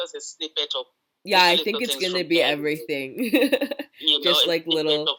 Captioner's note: laughing